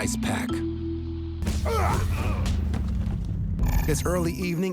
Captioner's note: fighting grunts